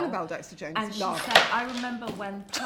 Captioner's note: The 1 of 50 Chanel bag thudding